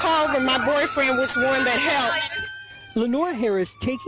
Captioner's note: sirens